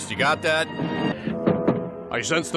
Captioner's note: thump, thump